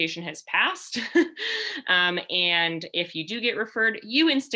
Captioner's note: laughter